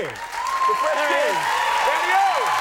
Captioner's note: audience cheering